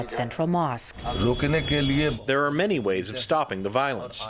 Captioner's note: through translator